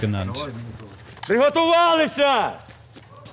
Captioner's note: shouts